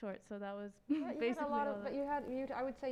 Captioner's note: stammers